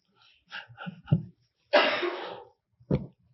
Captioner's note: laughs